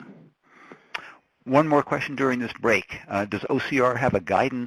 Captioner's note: voiceover